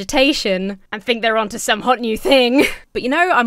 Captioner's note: chuckles